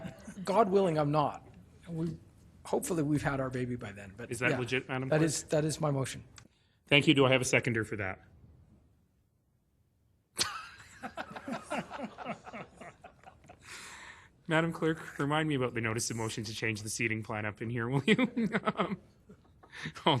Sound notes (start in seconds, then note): 10.7 laughing